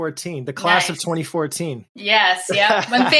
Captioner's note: laughs